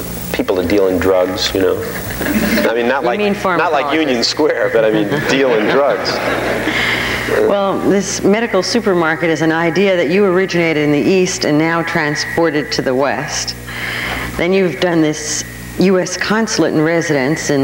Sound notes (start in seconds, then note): 1.8 audience laughing; 6.4 all laughing